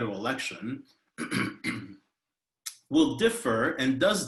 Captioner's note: clears throat